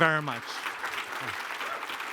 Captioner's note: applause